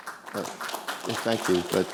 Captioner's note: audience applauding